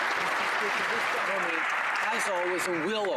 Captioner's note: some Applause